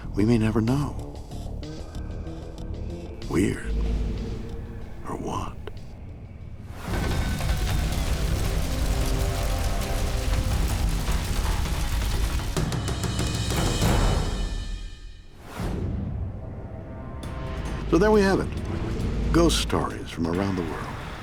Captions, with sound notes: We may never know. Weird or what? (dark dramatic music) (flames crackle and roar) (dramatic music) (dark dramatic music) So there we have it, ghost stories from around the world.